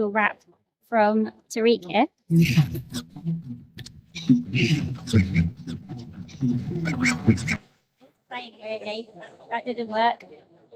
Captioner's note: mumbling